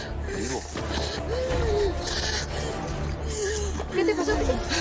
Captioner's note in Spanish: Elizabeth jadea